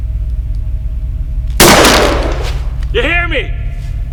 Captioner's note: gunshot